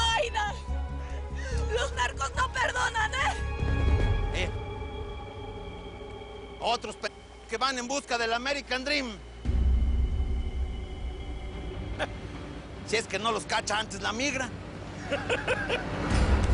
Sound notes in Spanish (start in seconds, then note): 15.0 Risas